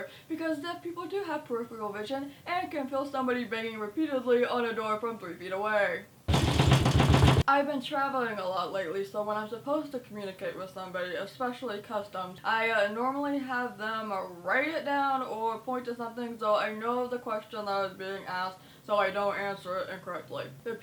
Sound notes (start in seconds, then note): 6.3 banging on door